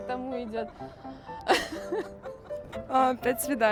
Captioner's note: laughter